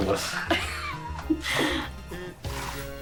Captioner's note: both laughing